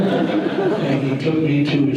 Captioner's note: audience laughter